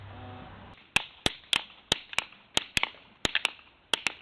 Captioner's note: loud hammering sounds